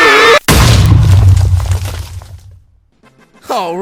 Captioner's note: all villagers scream in terror; massive explosion